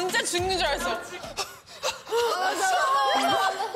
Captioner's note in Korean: 헐떡 헐떡